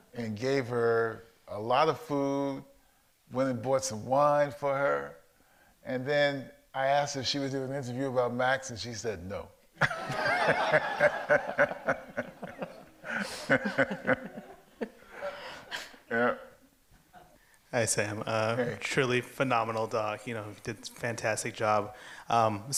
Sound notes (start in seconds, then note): 9.8 audience laughs